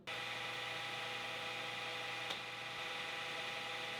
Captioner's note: machine whirring